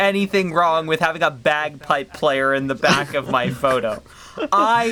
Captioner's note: laughs in the bagpipes